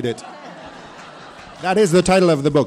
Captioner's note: attendees laughing